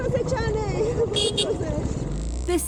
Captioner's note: moto beeps